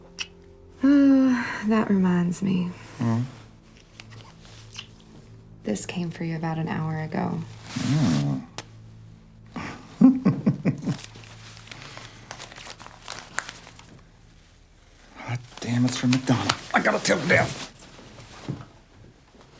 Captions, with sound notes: That reminds me. This came for you about an hour ago. [laughs] Goddamn, it's from McDonald. I got to tell Dev.